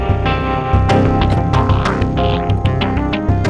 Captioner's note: Car door closes